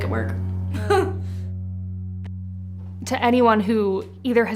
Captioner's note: laugh